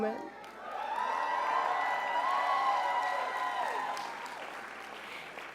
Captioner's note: sounds of crowd cheering